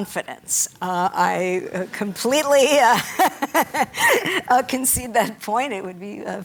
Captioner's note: laughs